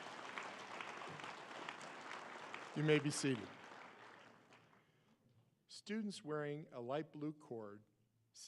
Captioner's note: applause